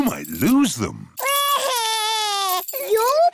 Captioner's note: crying